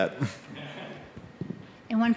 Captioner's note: scattered chuckling